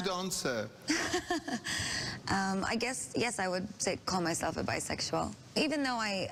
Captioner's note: laughs